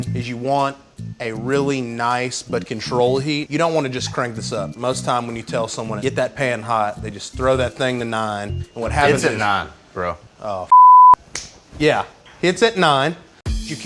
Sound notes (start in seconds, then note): 10.7 beep